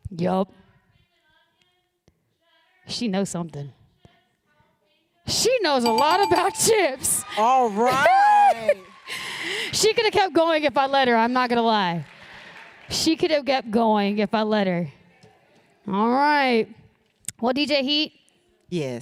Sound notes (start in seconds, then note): 7.5 applause